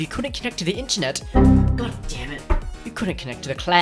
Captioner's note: error message